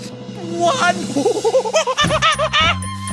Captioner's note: monkey noises